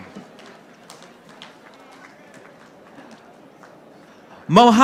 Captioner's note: audience applauding